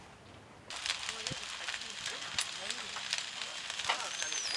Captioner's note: pan frying